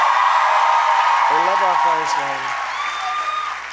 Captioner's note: applause